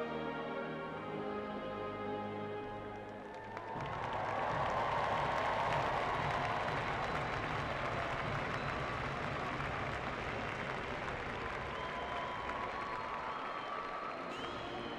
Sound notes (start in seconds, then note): 1.2 cheering and Applause